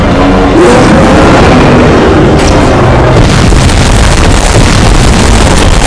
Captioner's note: Godzilla roaring; Godzilla roaring and spitting fire; loud explosions